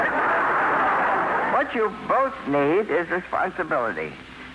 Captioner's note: laughter